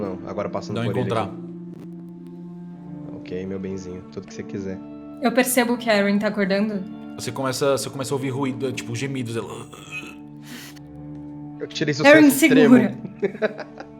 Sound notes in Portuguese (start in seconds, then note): 9.4 Uhhg